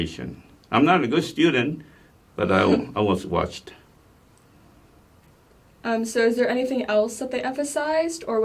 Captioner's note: laughs